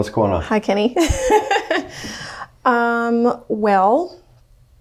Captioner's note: laughs